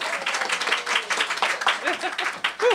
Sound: applause; laughter

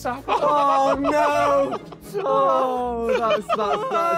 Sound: all laughing

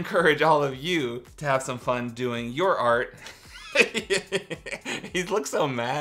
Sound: laughs

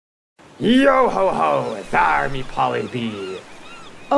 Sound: seagulls and waves crashing in background

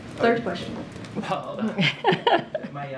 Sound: laughter

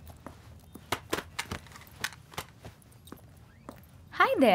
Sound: clattering sound

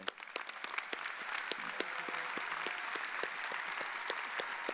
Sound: audience applauding

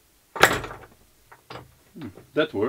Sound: clanking

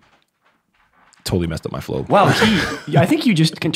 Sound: chuckles

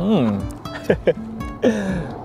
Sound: chuckles

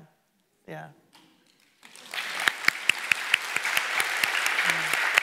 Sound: audience clapping

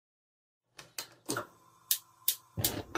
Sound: gas stove clicking

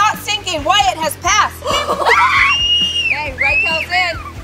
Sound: screaming

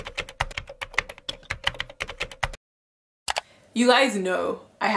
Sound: keyboard typing

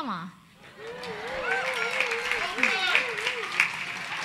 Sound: audience applause

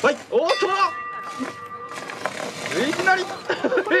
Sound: bell rings

